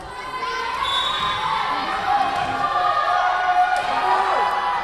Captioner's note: whistle blowing